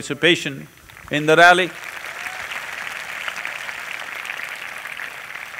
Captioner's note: applause